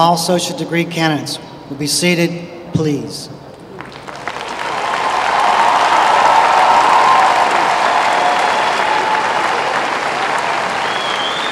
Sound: applause

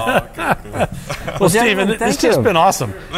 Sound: laughs

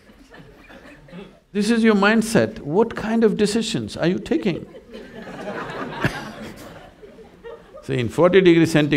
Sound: laughter

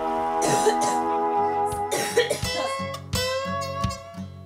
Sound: twangy guitar music; coughs

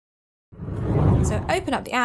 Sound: screen whooshes

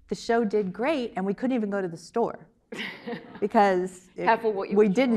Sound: laughter

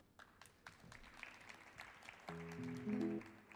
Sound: audience applauding; guitar strumming

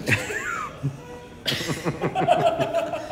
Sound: laughing

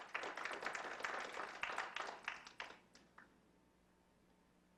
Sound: clapping

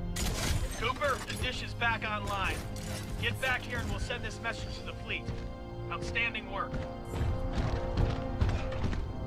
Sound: radio

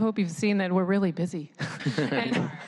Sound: laughter

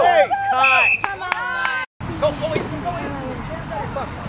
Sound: whistle blowing

